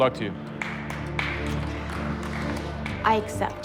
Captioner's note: applause